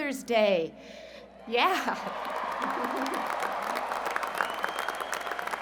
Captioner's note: cheers and Applause